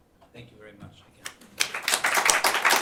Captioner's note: applause